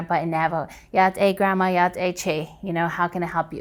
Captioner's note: speaking foreign language